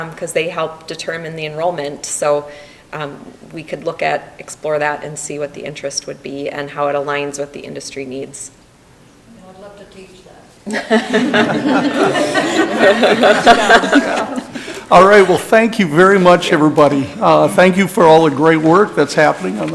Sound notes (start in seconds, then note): 10.6 people laughing